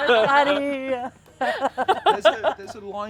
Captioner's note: laughter